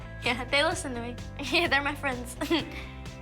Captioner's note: laughs